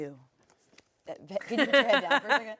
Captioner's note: laughs